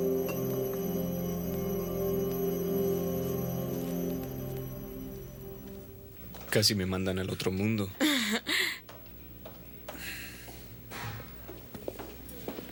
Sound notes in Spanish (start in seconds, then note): 8.0 Risos